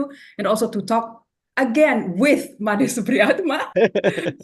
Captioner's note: laugh; laughs